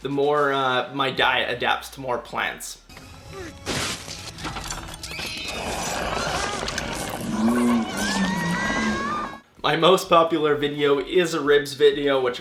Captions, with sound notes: the more my diet adapts to more plants. (glass shatters) (screaming) (growling) My most popular video is a ribs video